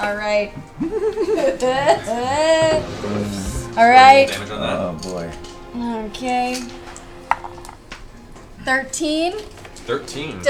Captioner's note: fake-cries